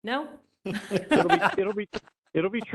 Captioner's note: laughter